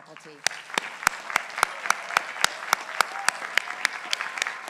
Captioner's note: people applauding